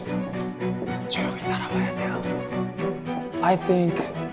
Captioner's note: whispering